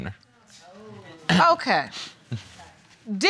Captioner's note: chuckles lightly